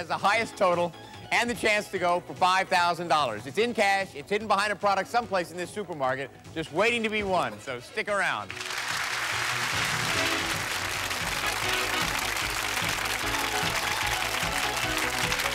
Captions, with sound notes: the highest total and the chance to go for $5,000. It's in cash, it's hidden behind a product someplace in this supermarket just waiting to be won. So stick around. (cheers and applause) (upbeat music)